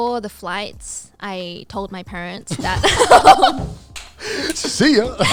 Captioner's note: everyone laughing